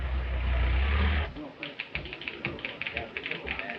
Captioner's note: keys clacking